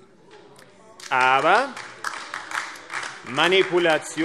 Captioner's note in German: Beifall AfD